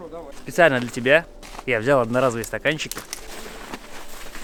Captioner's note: laughs